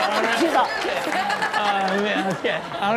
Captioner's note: gags